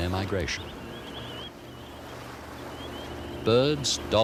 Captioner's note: birds chirping